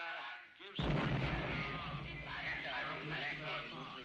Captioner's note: explosion